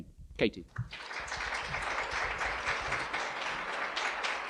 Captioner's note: applause